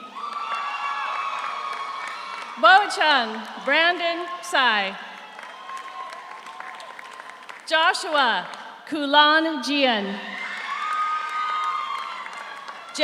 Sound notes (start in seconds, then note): 0.0 audience cheers; 0.1 audience applauds; 5.6 audience cheers; 10.3 audience cheers; 10.4 audience applauds